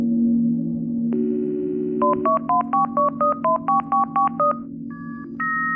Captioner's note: phone dials and beeps